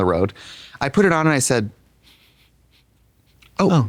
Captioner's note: sniffs